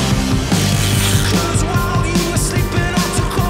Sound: crank freewheeling

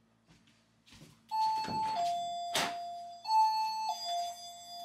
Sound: alarm goes off

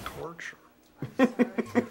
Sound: laughs

